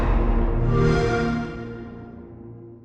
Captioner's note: xbox sound